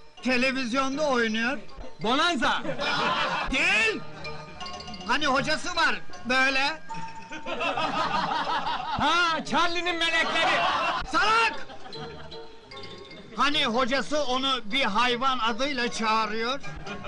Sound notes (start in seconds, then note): 1.4 heehaws; 7.3 heehaws in the background